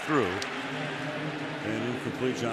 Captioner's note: pa announcement